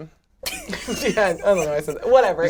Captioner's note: laughs